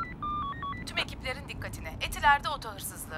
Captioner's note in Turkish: Telsiz - Kadın ses